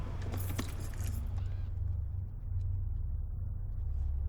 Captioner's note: keys jangling